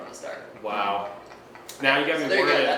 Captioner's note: laughing